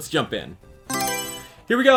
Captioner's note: Mario Selection Sound